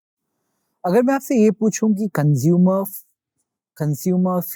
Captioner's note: continues in Hindi